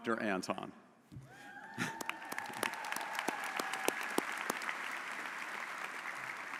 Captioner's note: audience cheering and applauding